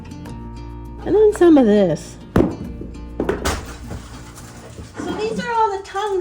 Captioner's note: hammer drop sound